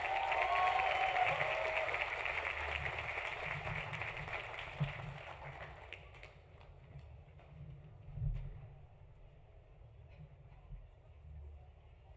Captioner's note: applause